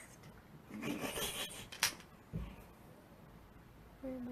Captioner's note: laughs